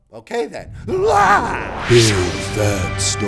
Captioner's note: exclaims